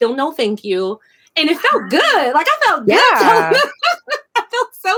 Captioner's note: laughing